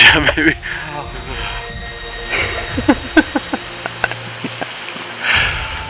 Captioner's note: excited laughter